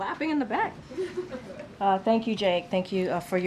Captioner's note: laughter